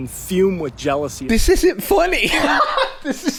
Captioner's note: laughs